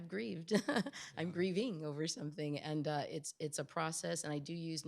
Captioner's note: chuckles